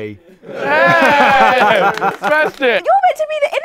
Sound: people cheering

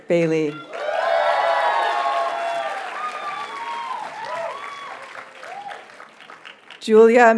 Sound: audience cheers and applauds

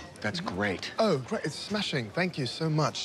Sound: British accent

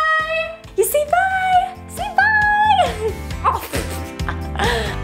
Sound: laughs; upbeat music

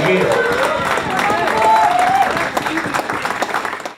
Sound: applause &cheers

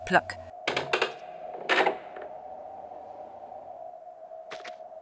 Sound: wooden door sound that doesn't fit with the door here

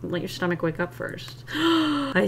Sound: gasps

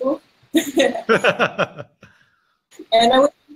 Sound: laughing

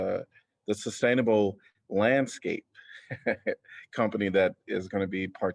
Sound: laughter

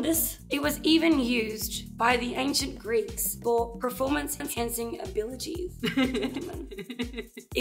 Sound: laughs

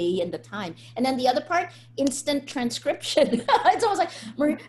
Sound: laughs

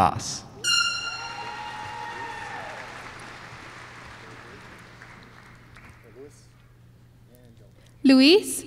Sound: applause

